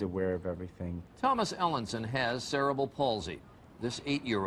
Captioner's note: voiceover